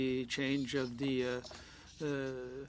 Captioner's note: speaking French